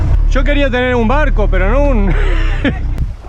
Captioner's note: laugh